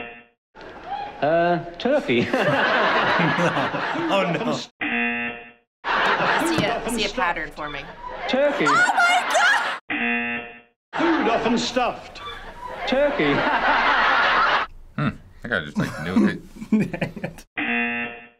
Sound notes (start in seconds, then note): 0.0 buzzer; 2.1 laughing; 4.8 buzzer; 9.9 buzzer; 16.1 laughing; 17.6 buzzer